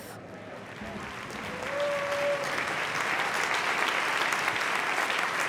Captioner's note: audience cheering and applauding